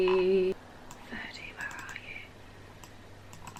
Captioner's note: whispers